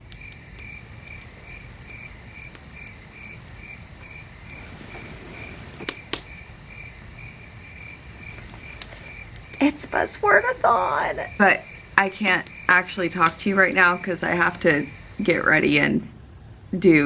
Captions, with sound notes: [night time ambience] It's buzzword-a-thon but I can't actually talk to you right now because i have to get ready and do